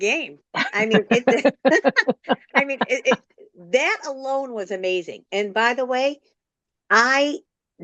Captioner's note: clears throat and laughter